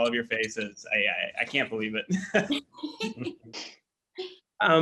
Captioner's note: laughs